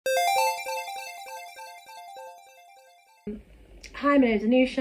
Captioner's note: high pitched, game starting sound